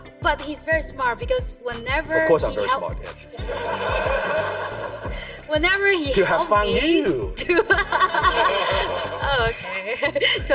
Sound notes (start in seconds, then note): 3.4 audience laughs; 7.3 laughs